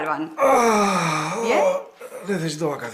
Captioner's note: long sigh